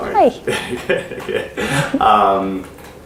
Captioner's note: laughing